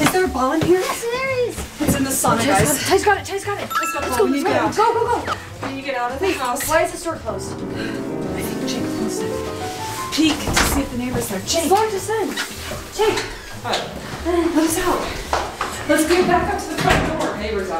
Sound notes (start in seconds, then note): 3.6 chime; 9.4 suspenseful piano music